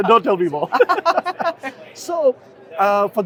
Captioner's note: both laughing